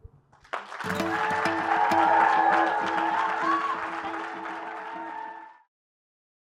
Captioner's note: applause